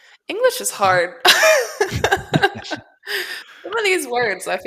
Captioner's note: laughs